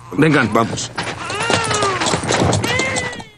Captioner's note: baby continues crying